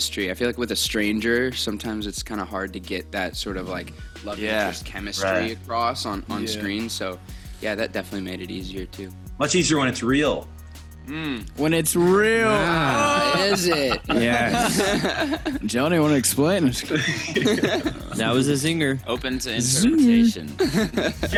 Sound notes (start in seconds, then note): 12.9 laughter; 16.9 laughter